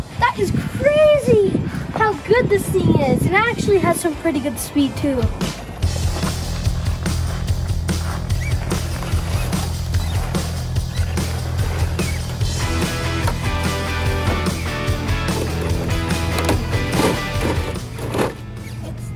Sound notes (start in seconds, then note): 6.0 rock music; 10.4 tires squeaking